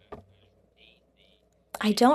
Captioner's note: speaking French